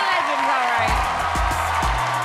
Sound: cheers and applause

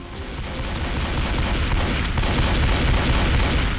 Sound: gun firing

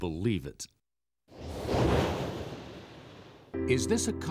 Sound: air whooshing

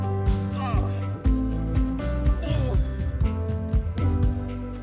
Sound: pain noises, but in french

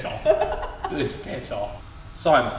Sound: Vik laughs

